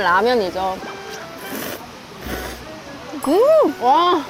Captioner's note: slurp